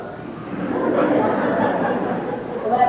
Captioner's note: laughter